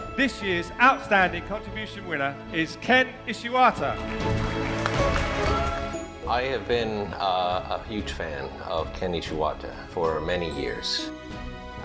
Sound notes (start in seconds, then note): 3.8 crowd applauding